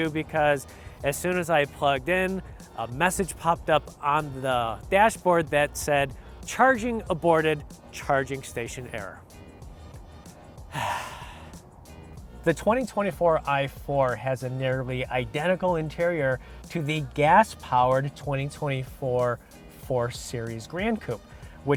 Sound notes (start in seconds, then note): 10.6 sighs